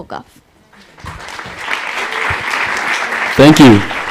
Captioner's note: applause